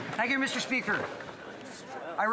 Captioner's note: speaking French